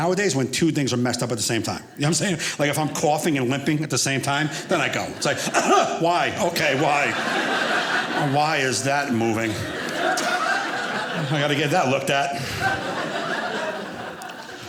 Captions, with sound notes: when two things are messed up at the same time, you know what I'm saying? Like, if I'm coughing and limping at the same time, then I go, it's like. (coughs) Why? Okay. Why? Why is that moving? (audience laughing) I got to get that looked at.